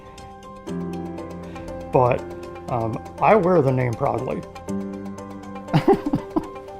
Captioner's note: laughing